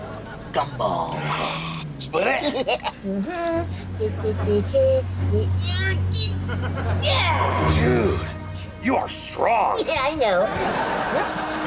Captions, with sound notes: Gumball. [gasping] Split it? [laughing] Dude, you are strong. Yeah, I know.